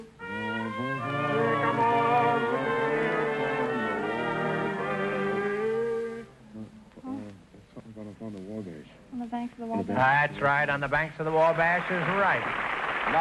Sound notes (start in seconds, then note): 0.0 Groucho humming to song; 6.4 whispering